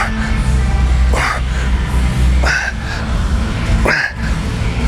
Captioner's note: grunting